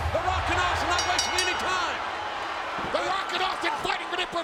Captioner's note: bell ringing